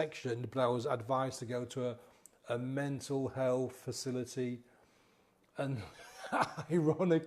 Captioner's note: chuckles